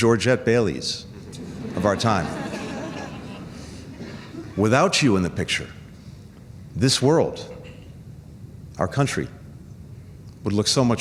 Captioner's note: laughter